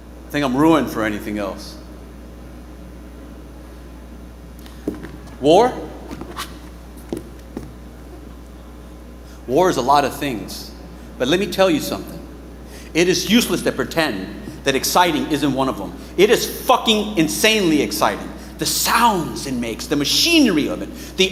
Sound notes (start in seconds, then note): 5.9 footsteps thudding; 6.4 boots squeaking